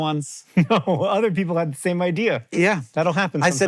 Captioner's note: chuckling